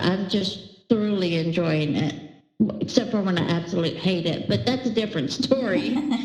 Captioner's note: laughter